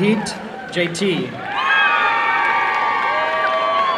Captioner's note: applause and cheering